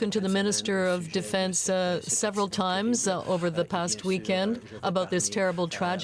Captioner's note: speaking French